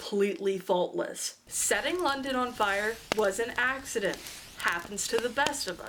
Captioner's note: fire crackles